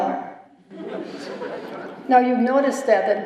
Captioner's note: laughter